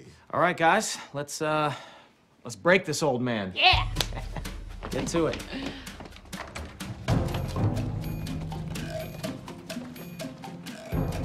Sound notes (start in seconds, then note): 3.6 laughs; 7.3 devious music